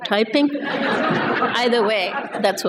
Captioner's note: laughter